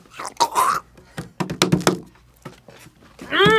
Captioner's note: drums on table